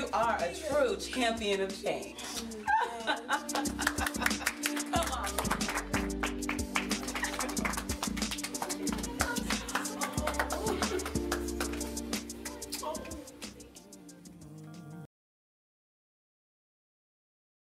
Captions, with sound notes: - You are a true champion of change. (Anita laughs) Come on y'all. (all clapping) (calm music)